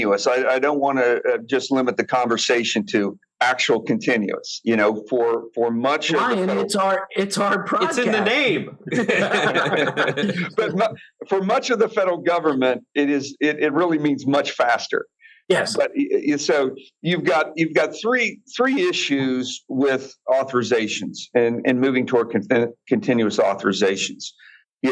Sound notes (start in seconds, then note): 8.8 laughter